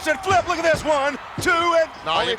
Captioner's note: referee smacking mat